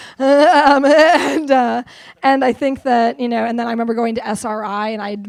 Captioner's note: laughs